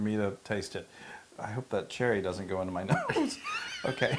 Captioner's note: laugh